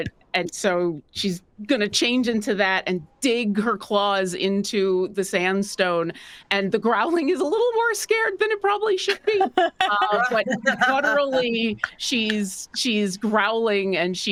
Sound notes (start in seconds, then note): 9.1 cast members laughing